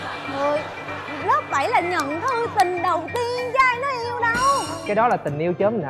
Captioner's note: laughing